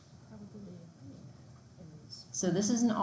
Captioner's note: student murmurs